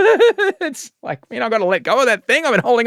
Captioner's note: laughing